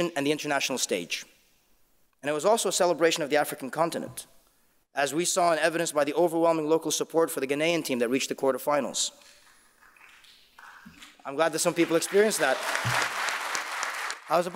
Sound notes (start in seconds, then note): 11.6 audience applauding